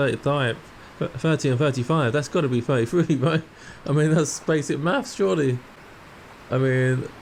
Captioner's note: laughs